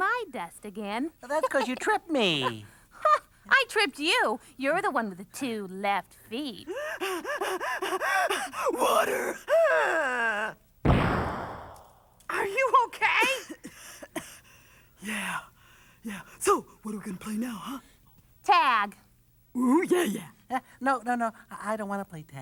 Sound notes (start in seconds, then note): 6.7 panting; 9.4 gasps; 13.2 coughs